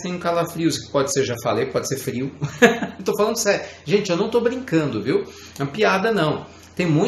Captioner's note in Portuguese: risadas